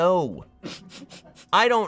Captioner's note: laughs